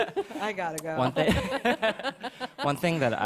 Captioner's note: laughter